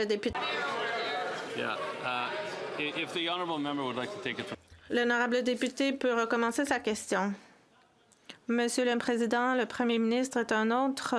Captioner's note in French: voix de l'interprète